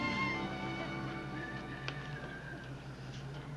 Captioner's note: whistling